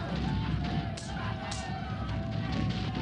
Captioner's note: clicks